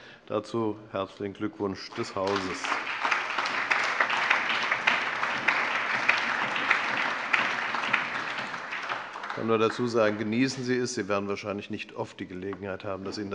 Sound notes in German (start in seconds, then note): 1.8 Allgemeiner Beifall